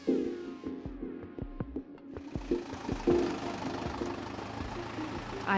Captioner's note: engine whirring